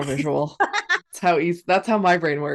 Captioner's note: laughs